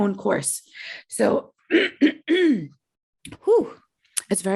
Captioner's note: clearing throat